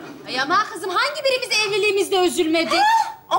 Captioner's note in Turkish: none